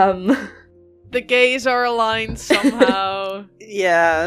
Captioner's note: laughter